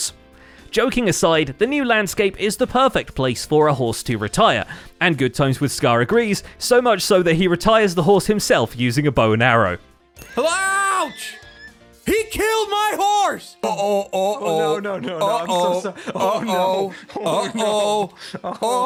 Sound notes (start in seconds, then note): 10.2 shouting; 10.9 horse death noises